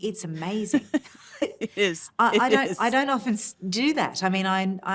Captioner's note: laughs